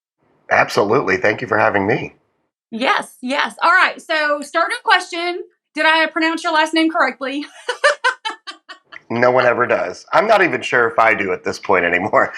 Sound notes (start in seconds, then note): 7.3 laugh